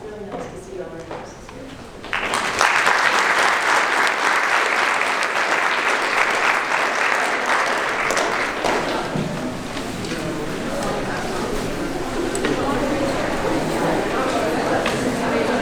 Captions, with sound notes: It's really nice to see all the students here. (audience applauding) (audience talking all at once)